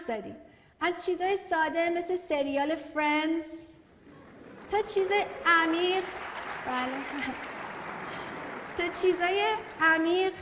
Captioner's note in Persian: تشویق حضار